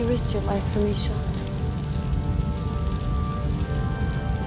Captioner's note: flames crackling